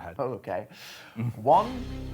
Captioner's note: chuckling